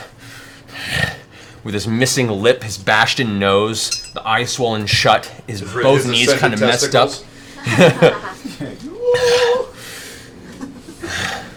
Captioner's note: pants